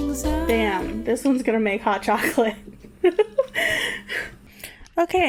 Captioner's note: laughs